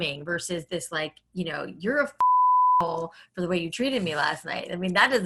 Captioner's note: beep